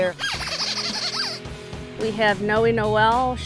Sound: squeaker

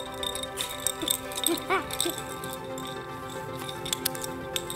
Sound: laughing

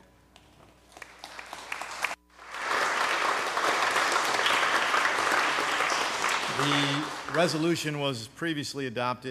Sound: applause

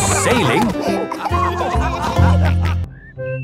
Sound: all laughing

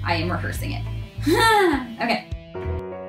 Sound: sigh

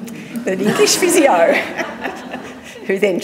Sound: laughs

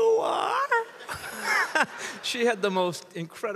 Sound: chuckles; audience laughs

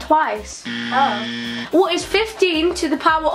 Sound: buzzer

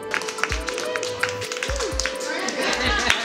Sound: applause and cheering

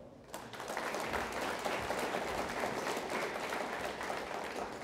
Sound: audience applauds

